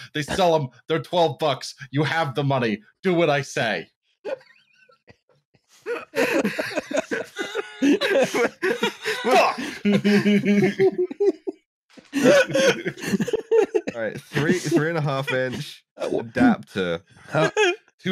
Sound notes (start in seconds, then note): 4.2 laughter, tightly restrained; 5.8 laughter, set loose; 9.7 laughs; 10.0 laughter, set loose